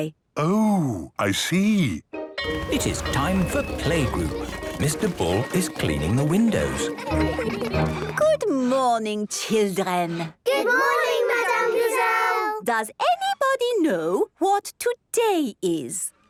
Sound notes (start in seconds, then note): 2.4 school bell ringing